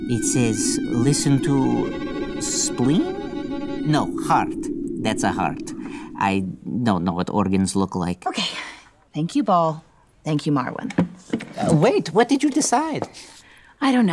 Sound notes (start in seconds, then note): 8.4 sighs